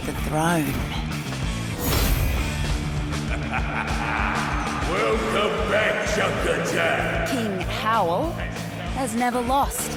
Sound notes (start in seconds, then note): 3.1 junker king laughs